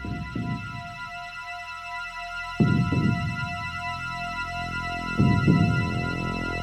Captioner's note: the sound of a heartbeat